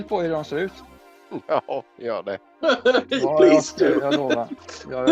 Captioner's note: laughting